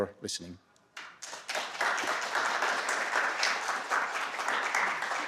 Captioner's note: applause